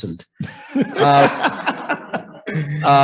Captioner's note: laughter